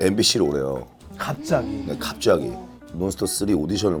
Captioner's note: haha